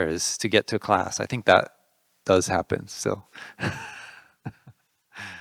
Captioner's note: laughing